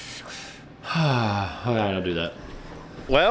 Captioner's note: sighing